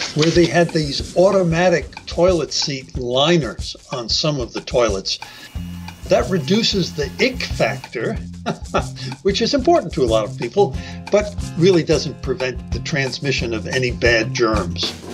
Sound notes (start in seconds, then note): 8.4 laughs